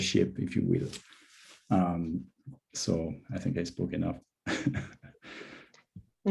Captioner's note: laughs